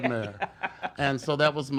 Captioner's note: laughs